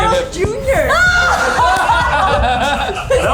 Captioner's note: all laugh